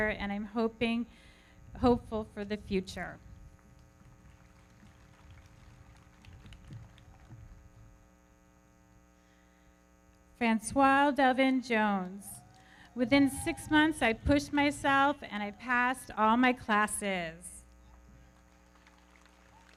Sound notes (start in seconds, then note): 3.6 everybody clapping; 12.2 audience cheering; 18.0 everybody clapping; 18.2 audience cheering